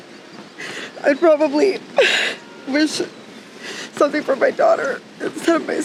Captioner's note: sobbing